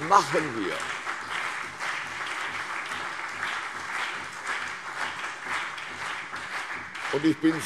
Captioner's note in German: Beifall CDU und BÜNDNIS 90/DIE GRÜNEN